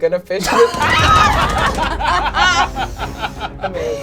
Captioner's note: all laugh; screams